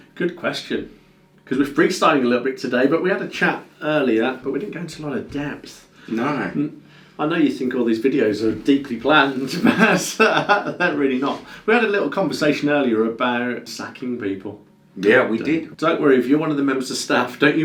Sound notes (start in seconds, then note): 9.4 laughs